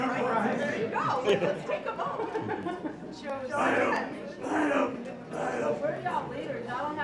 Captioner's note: laughter